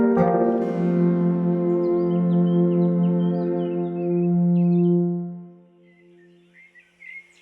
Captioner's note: birds chirping